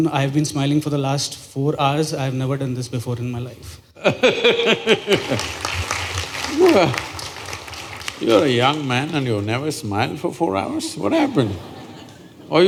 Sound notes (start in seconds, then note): 4.0 Sadhguru Laughs; 5.1 applause